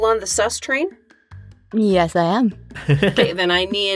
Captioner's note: chuckles